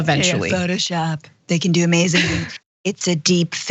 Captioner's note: laugh